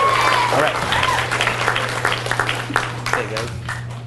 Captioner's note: audience cheers and applauds